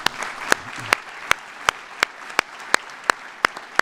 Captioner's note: applause